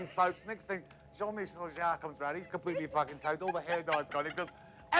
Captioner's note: speaks foreign language